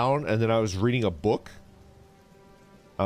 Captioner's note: none